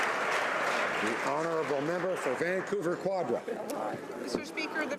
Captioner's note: applause